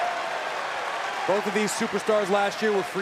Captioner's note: crowd cheering